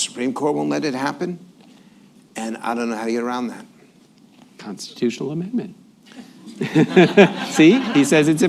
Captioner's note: laughs